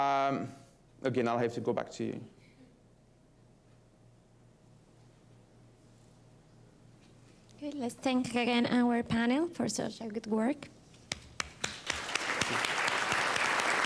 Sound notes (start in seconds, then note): 1.4 no speaking; 11.4 applause